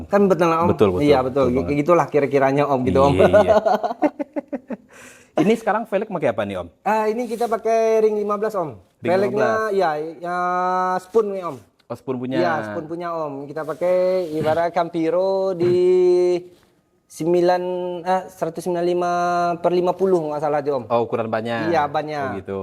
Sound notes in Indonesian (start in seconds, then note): 2.9 tertawa